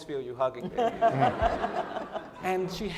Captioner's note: laughing